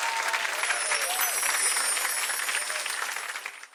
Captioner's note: chimes tinkling